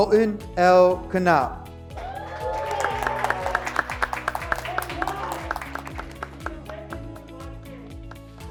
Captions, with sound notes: Colton L. Conat. (graduates clapping) (graduates cheering)